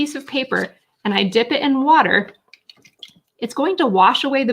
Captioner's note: water splashing